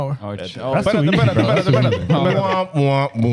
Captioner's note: speaking In Foreign Language